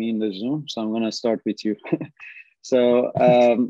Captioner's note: chuckles